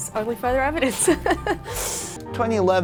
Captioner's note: laughing